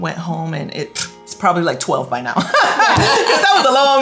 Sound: laughs

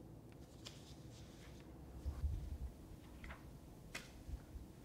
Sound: riffling paper

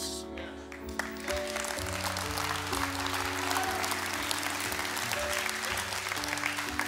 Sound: congregation cheering and applauding

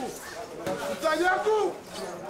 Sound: shouts

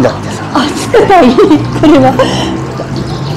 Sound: laughs

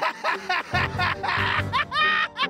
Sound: maniacal laughter

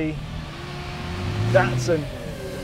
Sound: car revs

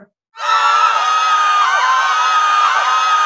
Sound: screaming

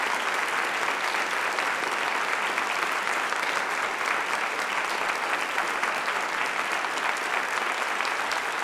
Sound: applause

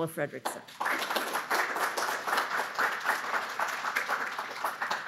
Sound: audience applauding

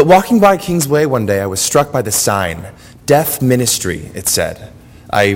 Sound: none

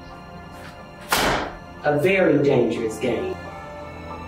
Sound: papers slamming

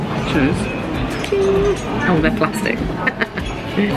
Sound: laughs

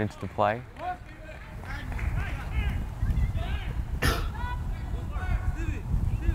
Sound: players talking and yelling

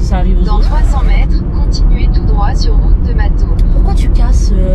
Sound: sound of scratched record

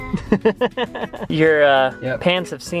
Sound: laughs

